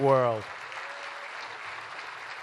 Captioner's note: applause